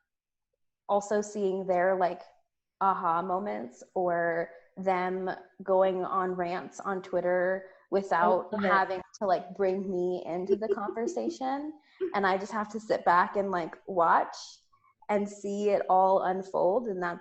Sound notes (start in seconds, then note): 10.5 laughs